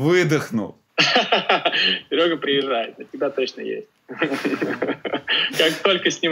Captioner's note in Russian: смеётся